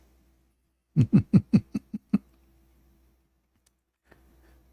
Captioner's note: Ketawa